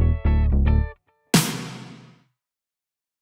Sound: super clap!

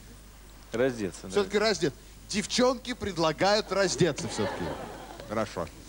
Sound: laugh

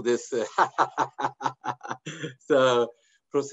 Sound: laughter

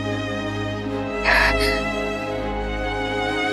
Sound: sighs

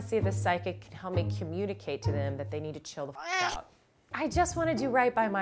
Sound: meow

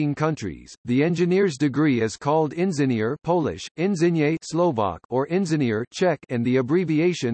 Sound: Polish

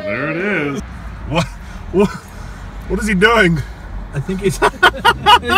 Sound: laughing

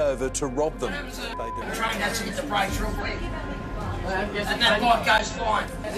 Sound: people talking loudly

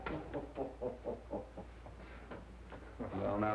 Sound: chuckling

